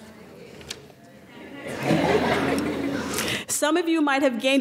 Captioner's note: laughing